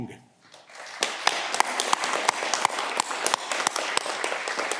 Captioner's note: audience clapping